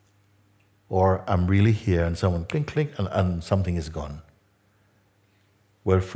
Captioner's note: klick